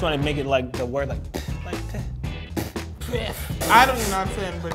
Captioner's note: scoffs